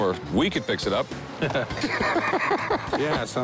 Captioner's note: laughter